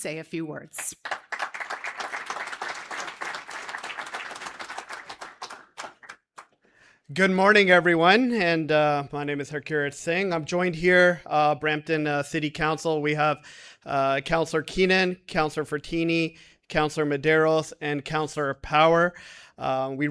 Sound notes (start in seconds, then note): 4.2 applause